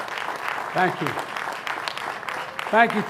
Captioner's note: applause